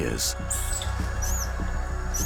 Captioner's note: screeches